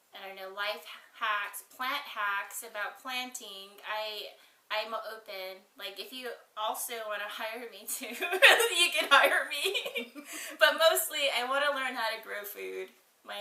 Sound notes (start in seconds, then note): 10.1 both laughs